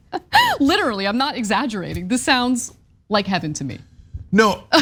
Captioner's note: laugh